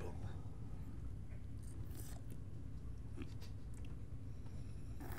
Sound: slurping

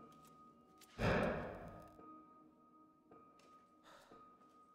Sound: metal clanging

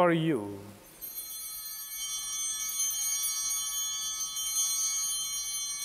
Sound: bell ringing

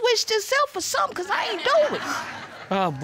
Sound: scoffs

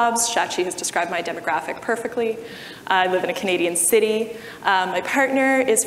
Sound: none

